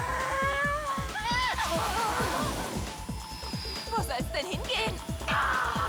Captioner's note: groaning